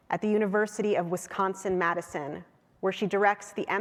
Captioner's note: none